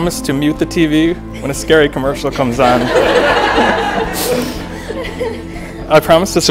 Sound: laughter

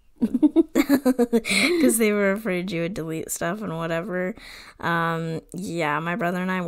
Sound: laughs

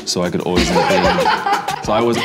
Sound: all laughing

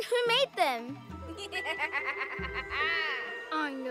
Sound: evil laughter

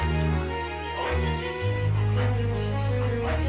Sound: screeching

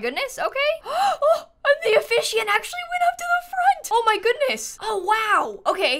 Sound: gasps

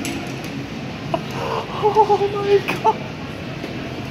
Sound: laughing

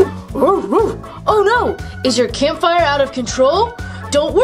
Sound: dog barking

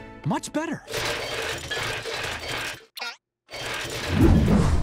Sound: clanging

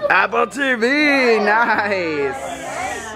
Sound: murmuring

